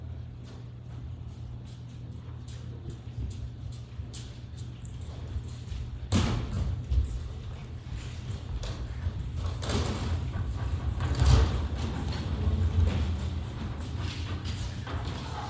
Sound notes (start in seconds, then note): none